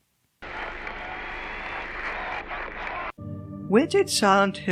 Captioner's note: static!